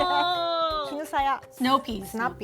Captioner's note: speaking Japanese